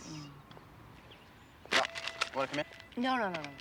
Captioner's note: car beeping